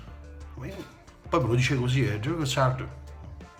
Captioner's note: in Italian